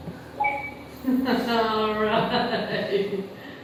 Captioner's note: laughs